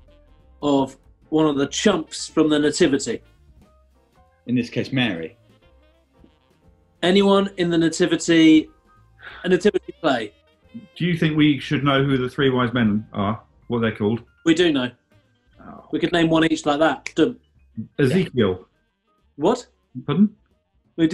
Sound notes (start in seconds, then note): 17.0 clicks finger